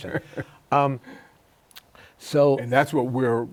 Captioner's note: laughs